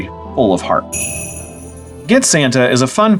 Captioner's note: sleigh bells